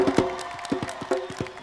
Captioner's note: cheers and applause